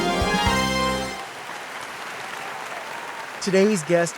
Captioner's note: audience applauds